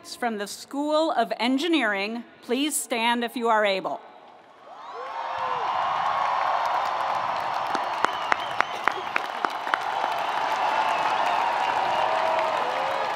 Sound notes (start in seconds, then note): 4.7 audience cheering; 4.9 audience applauding